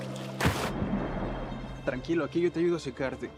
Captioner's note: water splashing; Lion speaking in foreign language